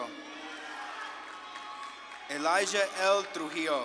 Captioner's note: audience claps and cheers